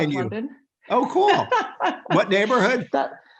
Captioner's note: laughing